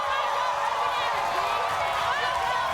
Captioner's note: audience cheers